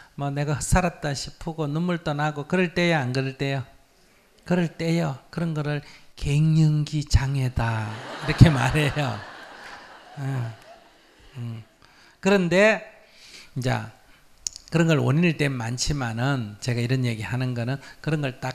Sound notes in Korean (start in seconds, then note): 7.8 청중/스님 웃음